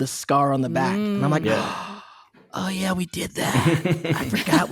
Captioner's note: gasping